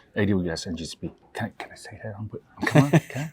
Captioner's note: whispering